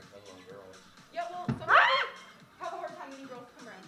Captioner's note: bang! Squak!